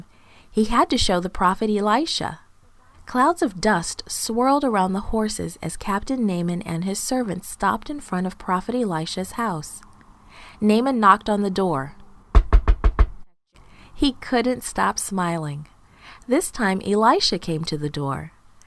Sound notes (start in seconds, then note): 12.3 knocking